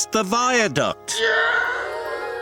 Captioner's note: screaming